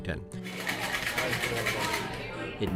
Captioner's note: ice rattling